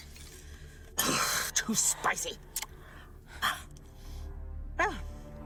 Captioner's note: huffs